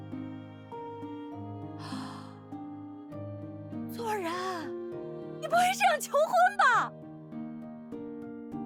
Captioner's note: sounding overjoyed and surprised